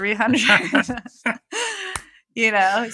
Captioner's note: <Laugh>